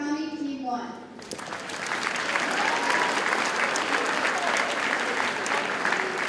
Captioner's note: audience cheers and applauds